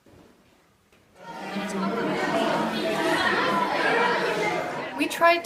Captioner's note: background noises of children, roughly Scouting age